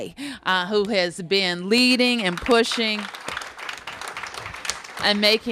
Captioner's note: applause